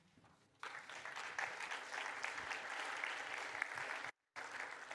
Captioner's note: applause